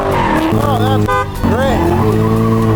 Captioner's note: car engine revving; beep; car engine revving